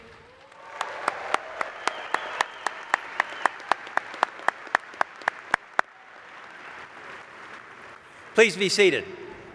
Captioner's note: applause